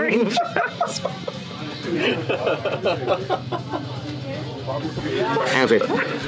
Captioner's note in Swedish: Skratt